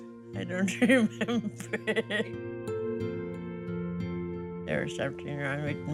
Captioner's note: laughing